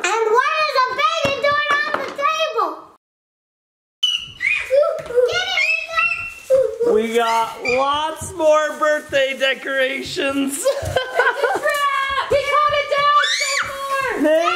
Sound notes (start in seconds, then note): 4.0 squealing excitedly; 10.6 laughs